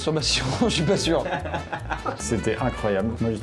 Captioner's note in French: rire